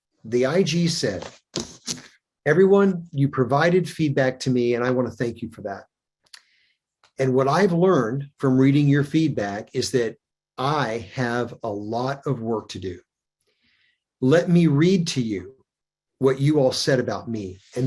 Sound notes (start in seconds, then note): none